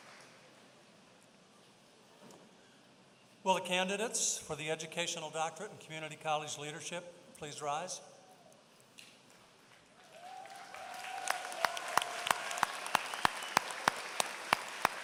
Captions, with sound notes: Will the candidates for the educational doctorate and community college leadership please rise? [APPLAUSE]